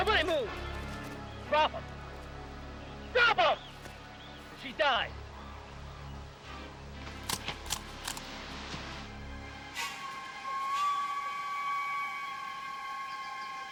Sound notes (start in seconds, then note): 7.0 grass rustling